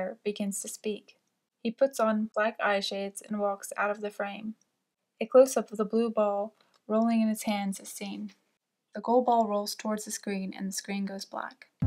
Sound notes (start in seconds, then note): none